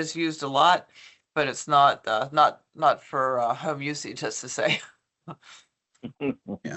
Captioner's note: chuckles